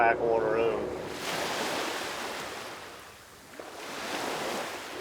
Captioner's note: waves crashing